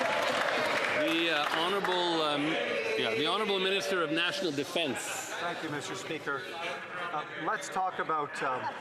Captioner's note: some Applause